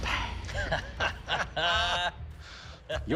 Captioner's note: laughter